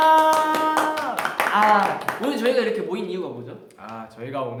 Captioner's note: claps